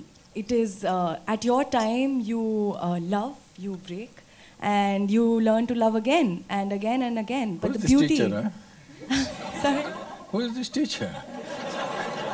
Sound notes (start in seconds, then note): 9.0 laughter